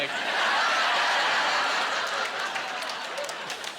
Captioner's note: laughing